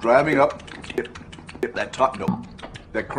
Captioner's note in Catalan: Sons de mastegar